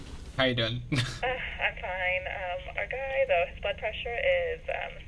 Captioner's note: radio Chatter